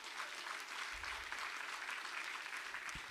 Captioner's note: audience applauding